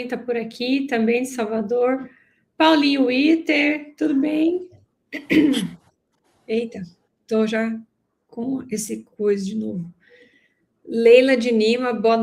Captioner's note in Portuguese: limpando a garganta